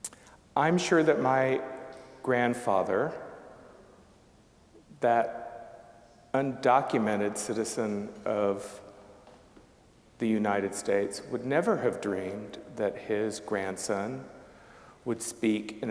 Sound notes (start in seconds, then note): none